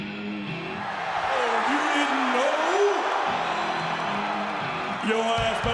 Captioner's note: dramatic music; upbeat rock music; crowd chattering